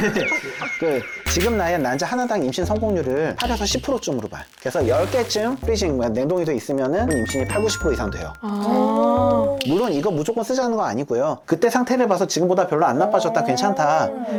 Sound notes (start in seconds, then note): 3.4 freezing SFX